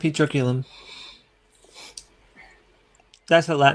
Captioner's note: silence